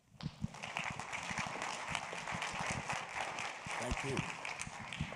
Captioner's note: audience applauds